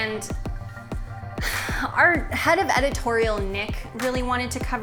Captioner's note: sighs